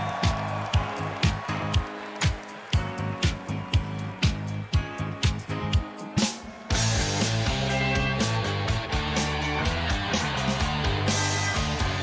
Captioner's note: cheers and applause